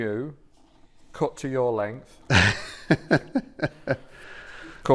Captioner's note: laughs